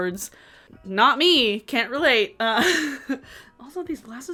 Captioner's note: laughs